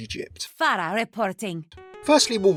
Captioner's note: voiceover